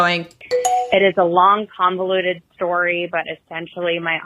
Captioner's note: bing bong sound